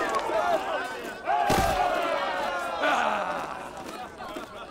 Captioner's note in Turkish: Bağrışma sesleri